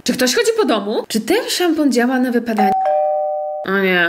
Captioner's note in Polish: dzwonek do drzwi